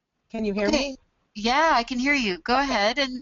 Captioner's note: voiceover